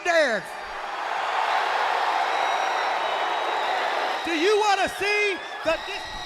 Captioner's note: crowd cheering